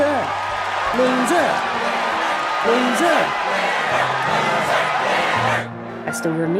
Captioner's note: crowd chanting; narrating